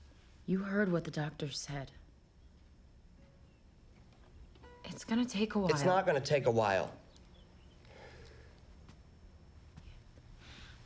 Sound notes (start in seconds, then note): none